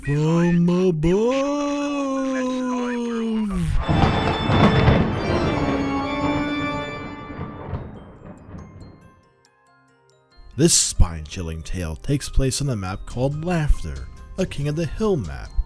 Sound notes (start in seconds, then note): 2.3 in an exaggerated spooky voice; 3.6 thunderclap